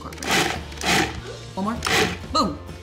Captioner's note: blender whirs